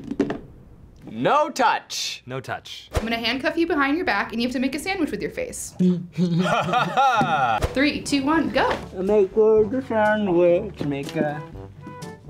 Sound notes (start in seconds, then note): 5.8 laughs; 6.1 chuckles